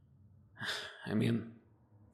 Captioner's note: sigh